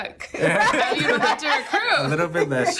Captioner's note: laughing